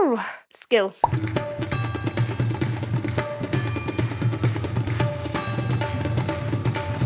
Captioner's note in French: musique de tabla; carillon de cloches